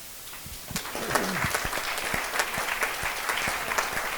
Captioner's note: applause